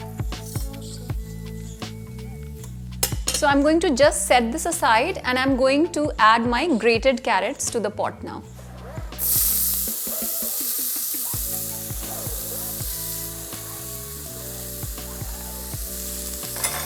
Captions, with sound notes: So I'm going to just set this aside and I'm going to add my grated carrots to the pot now. (sizzling sound) (soft music)